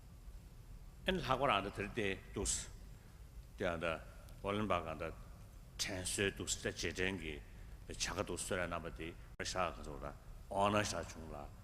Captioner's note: foreign words